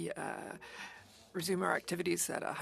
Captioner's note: speaking French